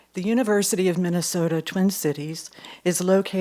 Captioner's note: none